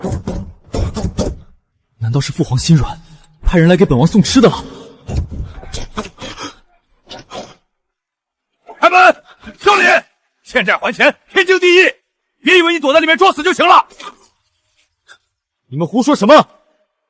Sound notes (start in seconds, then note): 5.0 knocking sound; 6.6 sound of door